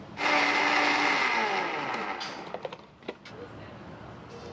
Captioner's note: blender whirring